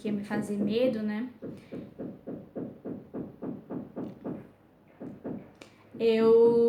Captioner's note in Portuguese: batidas na parede